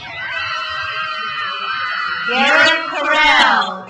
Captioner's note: crowd cheers